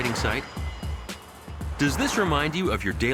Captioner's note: traffic roaring